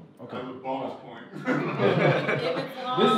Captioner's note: laughter